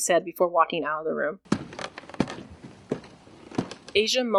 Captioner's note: creaking wood and boots